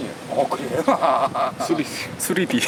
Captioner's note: laugh